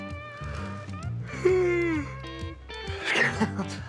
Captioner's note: yawning